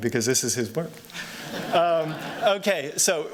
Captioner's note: laughter